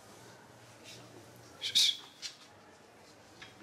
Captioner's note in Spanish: silbido